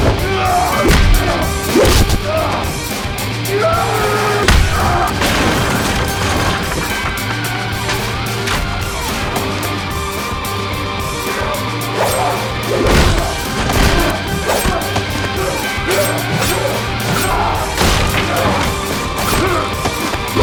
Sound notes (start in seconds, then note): 0.2 fighters grunting; 4.4 kick thudding; 11.8 blows thudding; 11.9 knife whooshing; 15.3 Esteban grunting; 15.3 knife whooshing